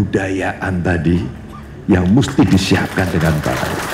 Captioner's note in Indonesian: tepuk tangan